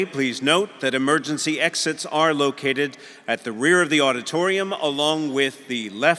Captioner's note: none